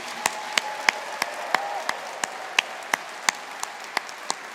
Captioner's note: audience applauding